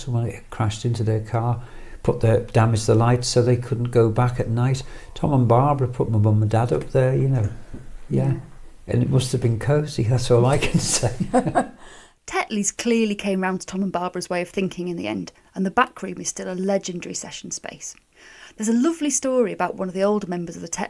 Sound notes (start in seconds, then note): 10.6 laughs